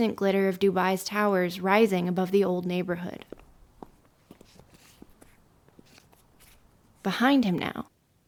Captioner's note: high heeled footsteps on concrete begin again